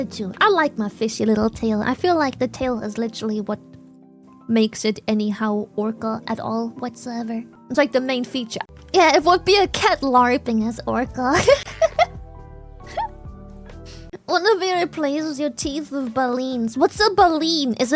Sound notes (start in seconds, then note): 11.4 laughs